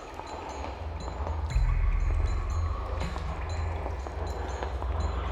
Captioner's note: water trickling